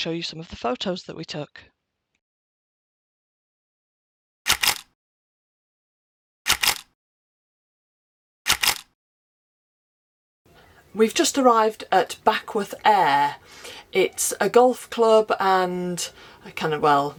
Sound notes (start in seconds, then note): 4.4 camera click; 6.4 camera click; 8.4 camera click